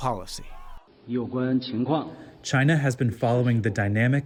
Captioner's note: through translator